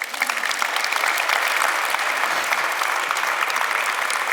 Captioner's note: audience applauds